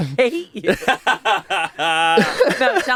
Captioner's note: everyone laughs